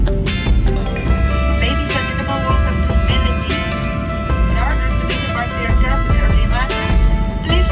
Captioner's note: PA system